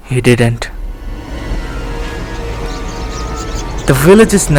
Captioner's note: birds Chirping